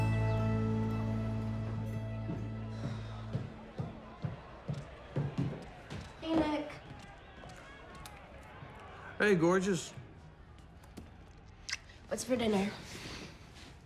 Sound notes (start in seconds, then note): 2.9 boxing match plays on television; 7.7 mouth full